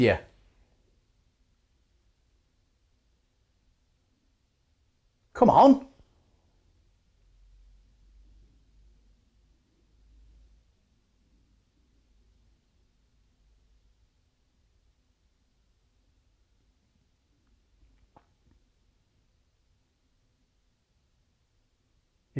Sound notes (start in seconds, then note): 0.1 silence